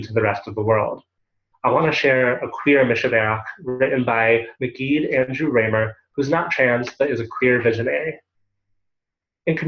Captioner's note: Hebrew